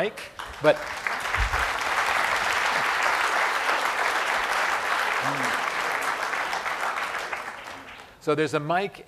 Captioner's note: applause